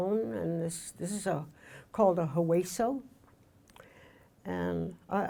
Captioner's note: speaking in foreign language